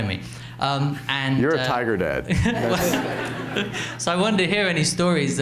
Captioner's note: laughs